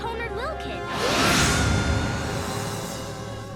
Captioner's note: yelling